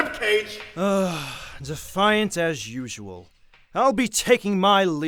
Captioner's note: sighs